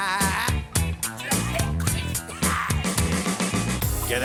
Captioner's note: coughs